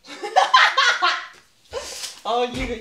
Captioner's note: cackling laughter